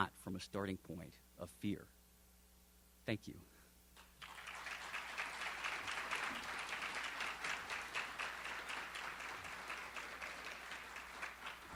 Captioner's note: applause